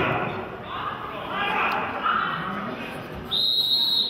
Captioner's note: players chattering; whistle blows